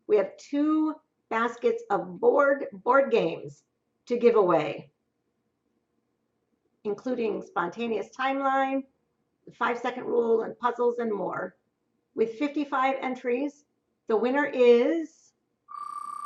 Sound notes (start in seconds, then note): none